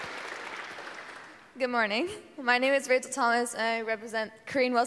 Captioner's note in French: Applaudissements